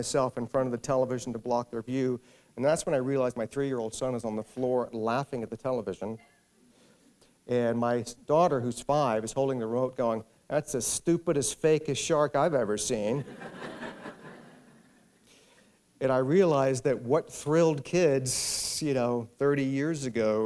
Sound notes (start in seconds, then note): 13.2 laughter